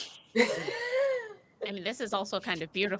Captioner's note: laughing